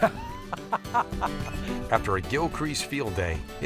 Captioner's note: laughter